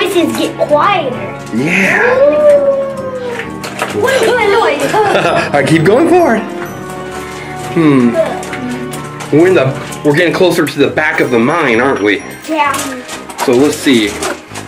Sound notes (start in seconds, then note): 1.7 ghostly howling